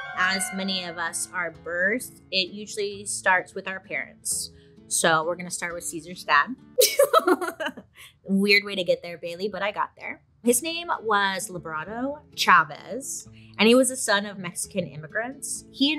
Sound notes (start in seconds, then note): 6.8 laughs